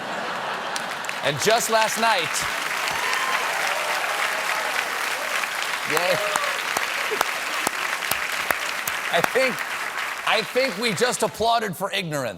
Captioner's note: applause